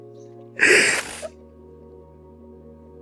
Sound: cries; sniffles

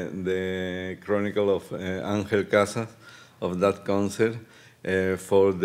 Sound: speaking Spanish

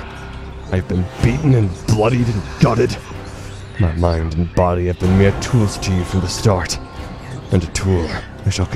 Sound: resonant whispers

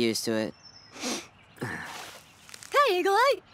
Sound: sniffs

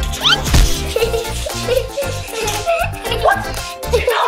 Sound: laughing

